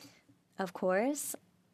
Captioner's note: speaking French